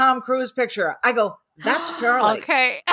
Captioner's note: laughs; gasps